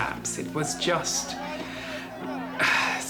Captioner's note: sighs